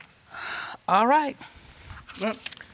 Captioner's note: sighs